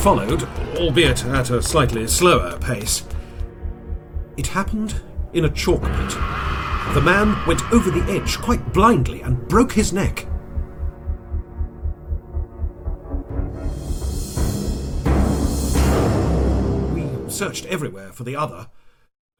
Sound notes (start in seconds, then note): 5.8 screams; 12.4 ominous music